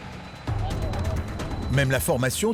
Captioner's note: crane whirring; intriguing music